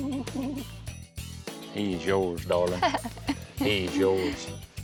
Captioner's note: snickering; chuckling